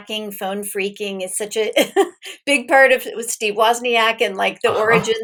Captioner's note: chuckles